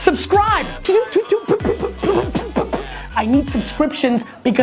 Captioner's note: makes bursting noises